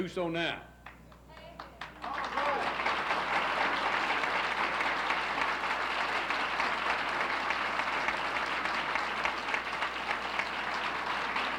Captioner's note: applauses